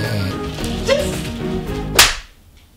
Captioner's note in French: bruit de claque